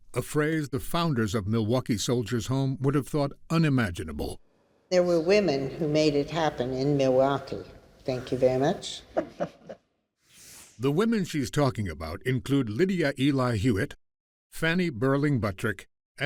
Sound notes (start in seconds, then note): 9.1 person laughing